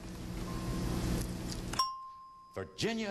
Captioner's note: ding